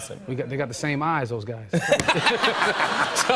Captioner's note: laughter